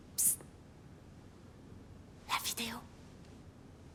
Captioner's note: none